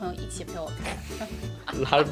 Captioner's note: hahaha